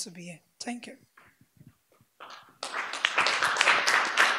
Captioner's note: audience applause